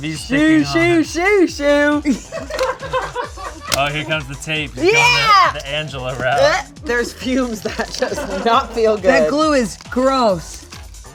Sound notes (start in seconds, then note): 2.2 crew laughing